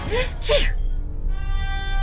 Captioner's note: sneezes